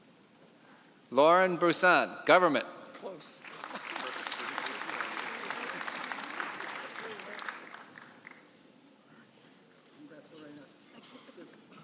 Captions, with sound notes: Lauren Brusan, government. (applause)